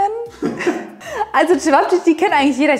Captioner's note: both laughing